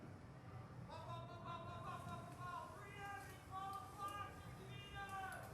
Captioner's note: army instructor shouts